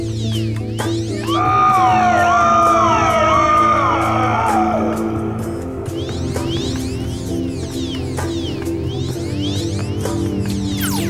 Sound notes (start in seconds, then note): 1.4 man yelling; 1.4 alarm blaring